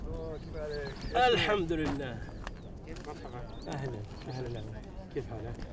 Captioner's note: speaking foreign language